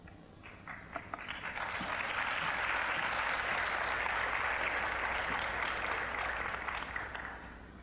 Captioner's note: applause